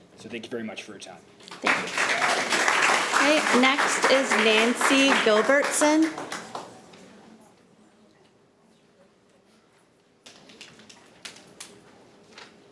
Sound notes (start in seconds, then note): 1.5 audience applauding